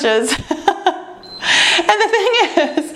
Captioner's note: timer beeps